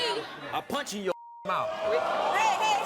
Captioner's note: beep